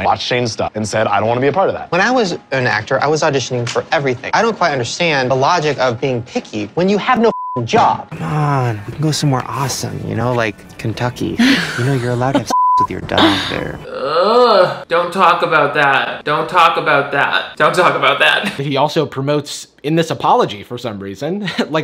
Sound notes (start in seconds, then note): 13.2 whines